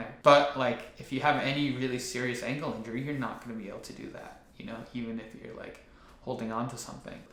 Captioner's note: none